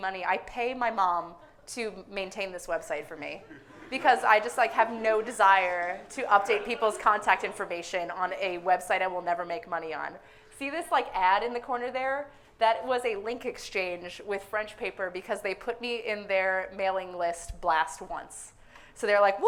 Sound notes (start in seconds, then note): 3.4 audience laughing